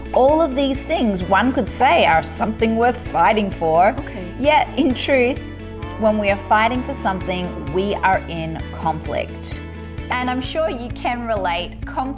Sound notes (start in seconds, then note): 5.8 cow mooing